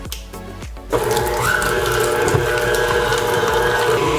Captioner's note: mixer whirs